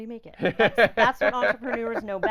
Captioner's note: laughing